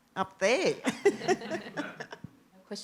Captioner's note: laughter